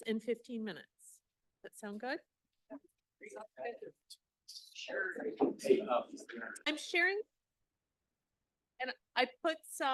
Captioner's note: silence